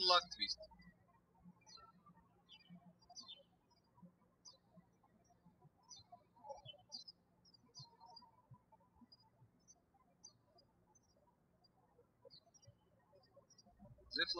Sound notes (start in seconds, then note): 3.0 birds chirping